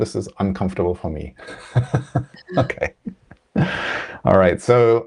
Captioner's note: laughs